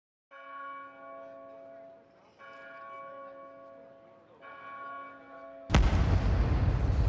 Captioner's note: bells tolling; explosion